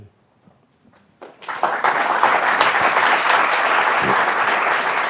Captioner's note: attendees applauding